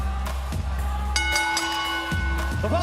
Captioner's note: crowd cheering; bell ringing